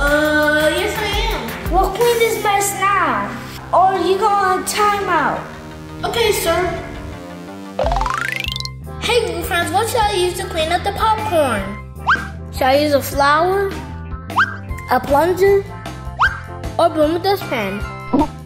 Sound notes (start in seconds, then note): 7.7 audio boings; 12.0 screen whistle; 14.3 screen whistle; 16.2 screen whistle